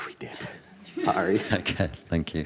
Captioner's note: guy laughs